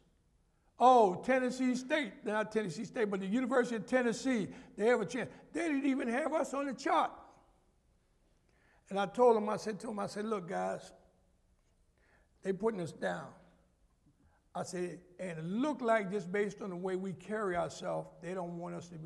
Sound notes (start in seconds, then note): none